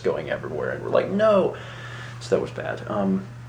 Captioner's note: inhales